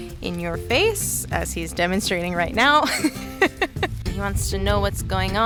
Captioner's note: laughing